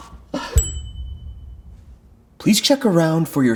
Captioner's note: bell dinging